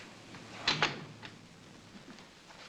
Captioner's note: door closes